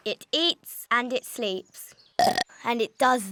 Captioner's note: burps